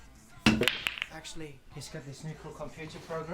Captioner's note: balls knocking